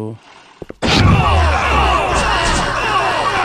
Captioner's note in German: Schräge, schreiende Geräusche